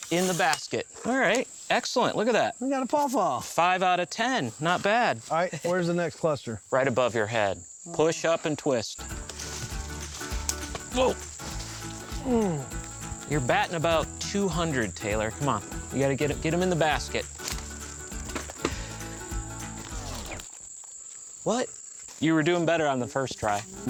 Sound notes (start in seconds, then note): 12.2 grunts